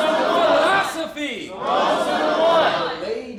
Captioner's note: crowd